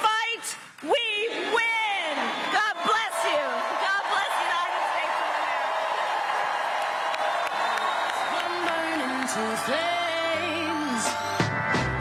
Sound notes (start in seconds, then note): 2.6 cheering and applause